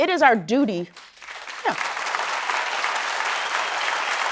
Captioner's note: applause